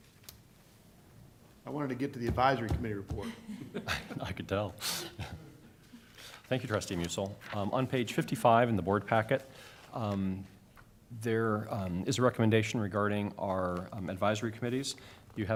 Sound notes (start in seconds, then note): 3.2 laughter